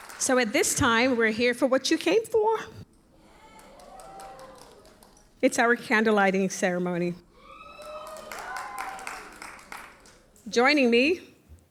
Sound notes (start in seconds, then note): 0.0 audience applauds; 3.0 audience cheers; 7.2 audience cheers and applauds